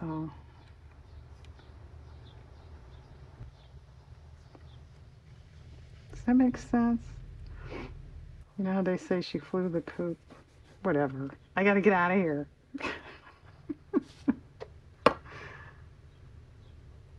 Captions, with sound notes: does that make sense? you know how they say, "she flew the coop?" whatever, I got to get out of here (laughs)